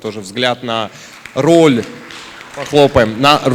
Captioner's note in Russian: аплодисменты